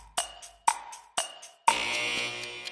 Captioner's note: clocking ticking; buzzer